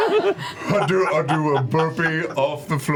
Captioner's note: yells; laughter